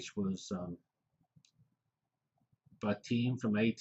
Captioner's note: pause